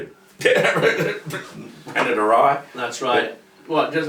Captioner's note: chuckles lightly